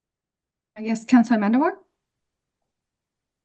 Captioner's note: back to English